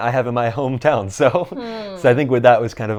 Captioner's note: laughs